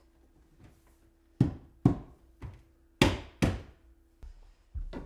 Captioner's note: palm pounding